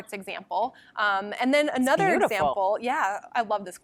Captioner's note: voiceover